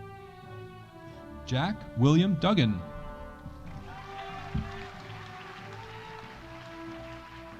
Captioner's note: audience applauding